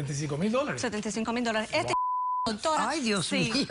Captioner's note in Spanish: Bip